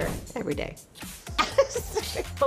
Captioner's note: laughing